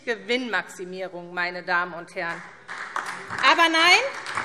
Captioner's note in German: Beifall SPD und DIE LINKE